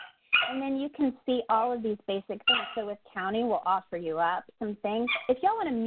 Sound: dog barks; dog barks

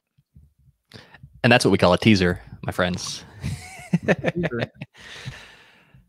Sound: laughs

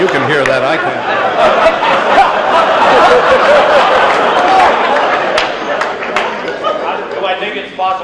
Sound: laughter and murmuring

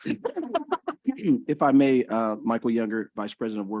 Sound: laughter

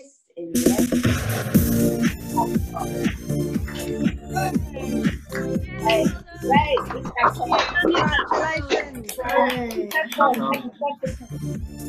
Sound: clapping and cheering

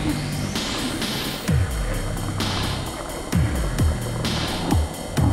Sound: gruesome growling

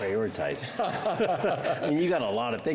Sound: laughter

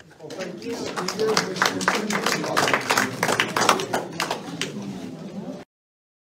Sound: applause

